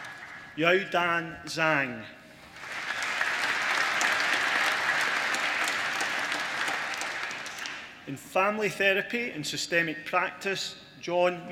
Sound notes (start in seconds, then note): 2.4 applause